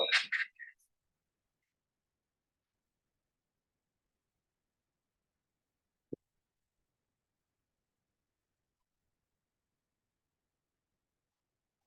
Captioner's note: silence